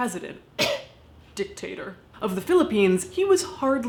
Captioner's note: coughs